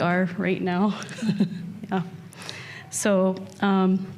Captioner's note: chuckles